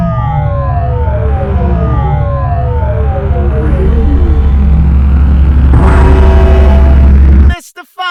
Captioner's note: siren blares